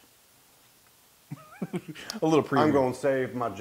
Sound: laugh

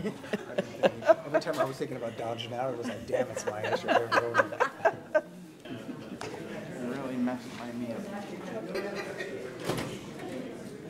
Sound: laughter

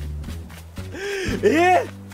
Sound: inhales

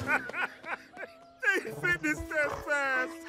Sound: laughing

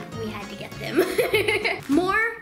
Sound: laughs

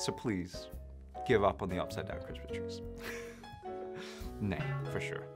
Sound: laughs

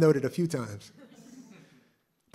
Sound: laughter

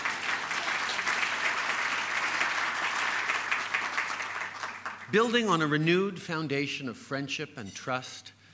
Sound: laughter & applause

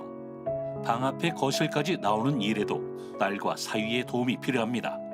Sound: voiceover

